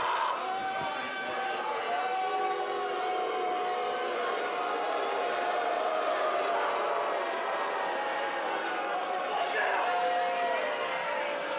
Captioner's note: crowd chatter